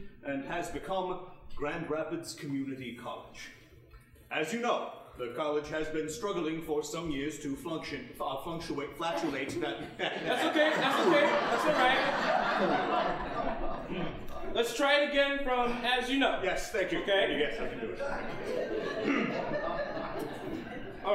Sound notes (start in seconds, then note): 9.1 audience laughing; 18.0 audience chuckling